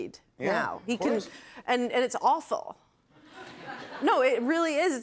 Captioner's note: laughter